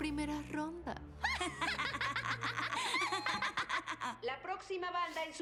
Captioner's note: giggles